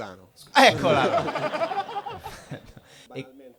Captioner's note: risate